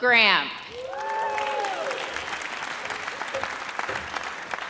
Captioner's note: audience cheers